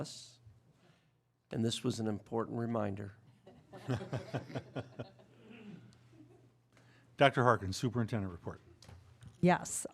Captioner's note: laughter